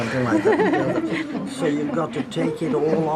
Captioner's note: laughter